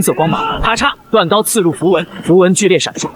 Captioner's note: crack!